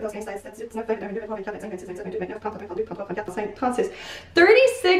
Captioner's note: counts in french